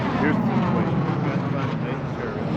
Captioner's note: engine whooshing